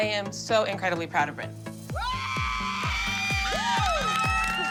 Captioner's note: whooping